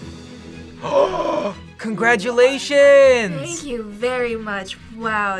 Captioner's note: gasps